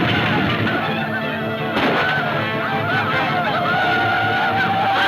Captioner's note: gunfire pops; laughing